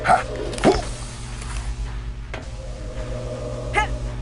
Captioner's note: characters grunting